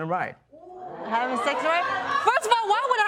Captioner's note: audience gasp; laughter